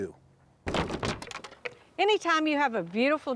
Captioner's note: wood clattering